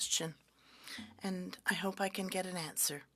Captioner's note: speaking French